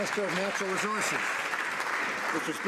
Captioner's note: some Applause